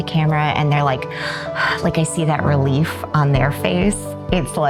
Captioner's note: exhales